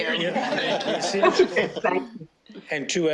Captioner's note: all laughing